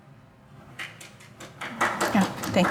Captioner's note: audience applauds